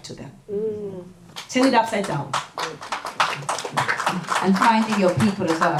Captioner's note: audience applause